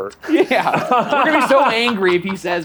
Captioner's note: laughs